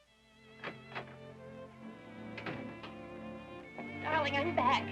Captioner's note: door clicking